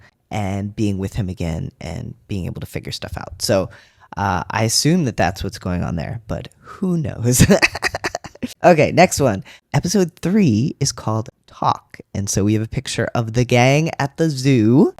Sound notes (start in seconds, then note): 7.4 laugh